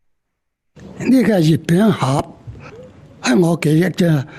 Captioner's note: in Cantonese